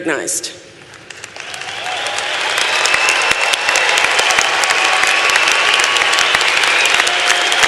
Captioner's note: applause